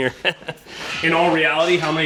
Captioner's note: laughs